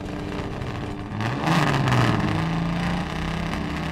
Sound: engine revs

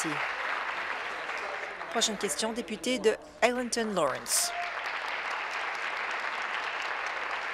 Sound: applause

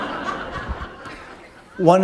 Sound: laughter

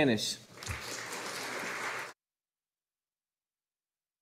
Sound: audience applauding

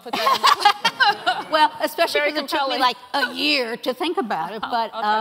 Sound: laughing

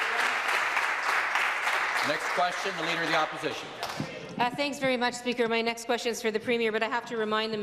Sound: applause

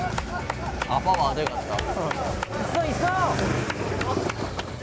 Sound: and the members welcome them by clapping

